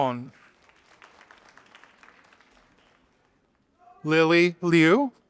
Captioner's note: audience applauding